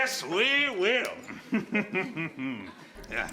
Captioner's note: laughs